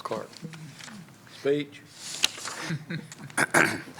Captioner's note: laughter